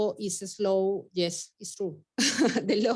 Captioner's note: chuckles